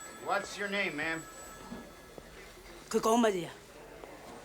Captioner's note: speaking Chinese